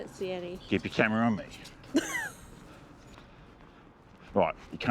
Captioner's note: laugh